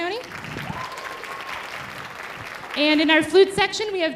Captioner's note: audience applauding